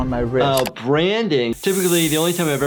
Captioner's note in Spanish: silbidos de metal